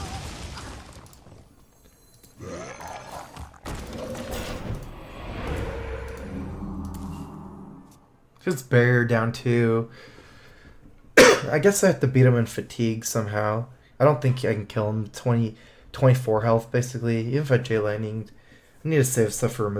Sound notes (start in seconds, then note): 7.4 cough